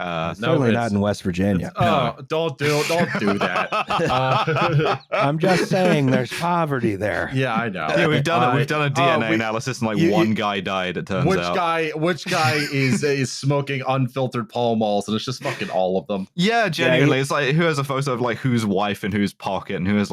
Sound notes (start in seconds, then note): 2.6 laughs; 2.6 laughter; 7.0 laughing